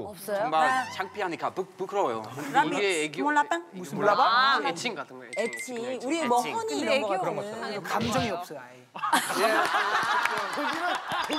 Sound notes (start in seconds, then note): 9.1 laughing